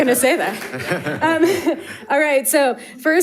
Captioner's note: audience laughing